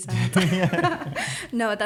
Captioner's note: laughter